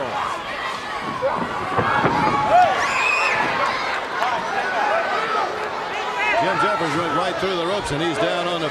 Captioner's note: crowd chatter